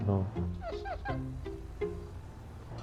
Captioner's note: chuckle